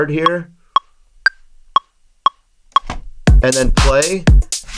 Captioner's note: metronome ticking